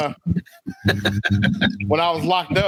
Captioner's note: laughing